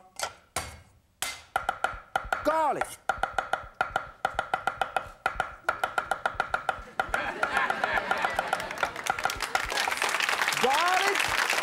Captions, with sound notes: (clanking) garlic. (audience laughing) (audience applauding) Garlic.